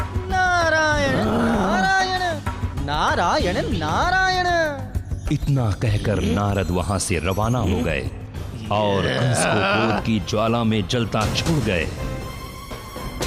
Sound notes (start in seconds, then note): 4.2 grunts; 8.6 grunts